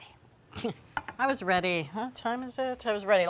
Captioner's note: laughing